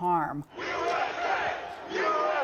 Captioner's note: crowd